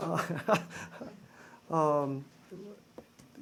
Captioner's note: laughter